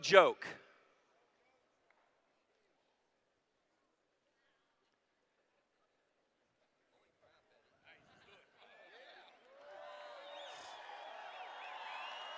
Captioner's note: cheers